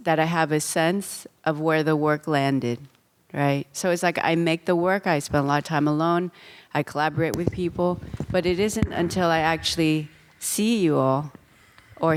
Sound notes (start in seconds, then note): none